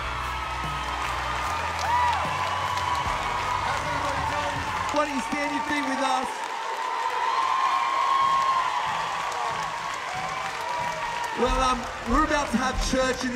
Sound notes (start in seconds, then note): 2.2 applause; 4.2 cheering